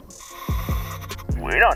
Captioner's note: inhales